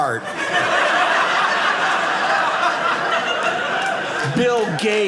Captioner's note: audience laughing